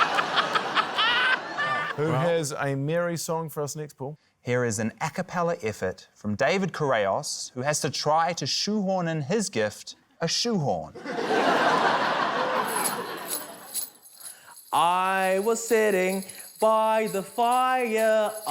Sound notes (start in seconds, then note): 10.9 laughter; 11.7 bells jingle